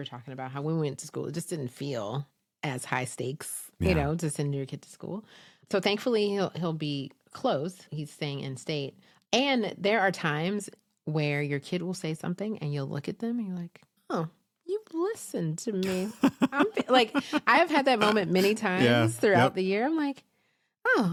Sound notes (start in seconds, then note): 15.8 chuckles